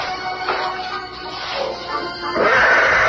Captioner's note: horse whinnies